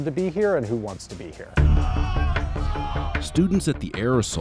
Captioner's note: yelling